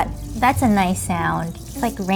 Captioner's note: seeds sizzling